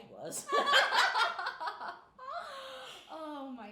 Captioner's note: laughing